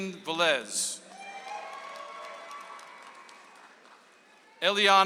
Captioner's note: audience applauds